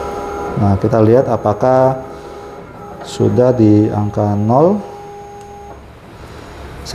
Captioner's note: printer machine noise